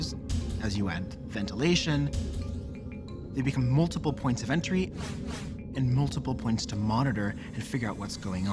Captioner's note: none